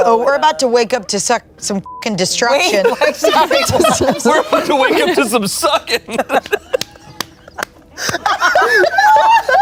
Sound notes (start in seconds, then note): 1.8 beep; 2.8 everyone laughs